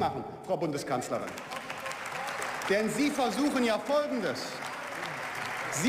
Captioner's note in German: Beifall